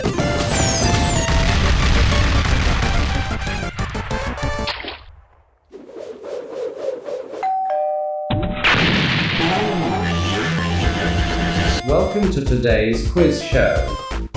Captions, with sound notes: (Doorbell) OH YESSSSSSSSSSSSSSSSSSSSS YEYEYEYESYESYESYESYESEYSEYSEYSE Welcome to today's quiz show!